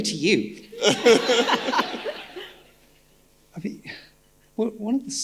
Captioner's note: audience laughing